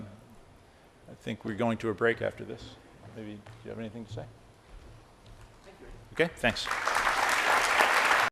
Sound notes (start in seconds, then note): 6.5 applause